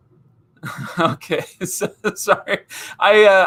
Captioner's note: laughing